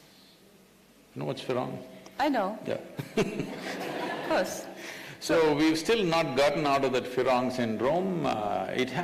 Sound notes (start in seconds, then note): 3.0 Sadhguru laughs; 3.0 laughter